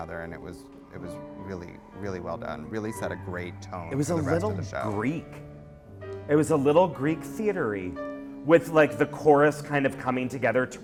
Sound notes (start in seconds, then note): 4.2 voiceover